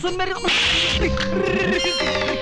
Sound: slap

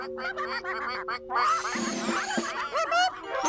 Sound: ducks Quacking

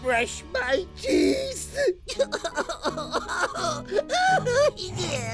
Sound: sobbing

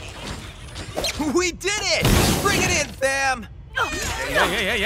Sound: laughing

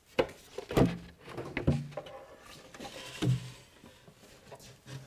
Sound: cabinet clunking

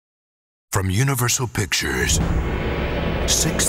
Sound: voiceover

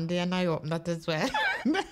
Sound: laughing

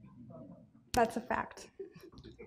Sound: chuckles

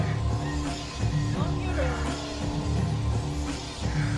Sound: voice from afar

